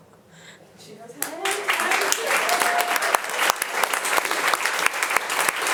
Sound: audience applauding

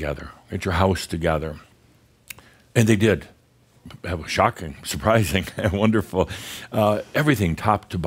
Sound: Adamus chuckles

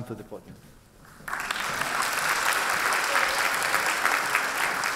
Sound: applause

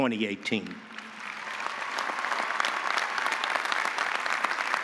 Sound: audience applauding

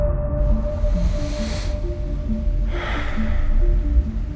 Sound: soft suspenseful music; deep breathing

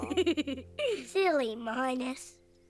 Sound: giggles

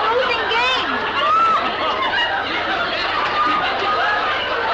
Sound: audience laughs

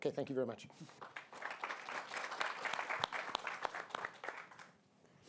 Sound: applause

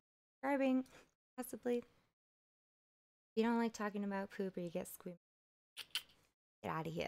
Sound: sucks teeth

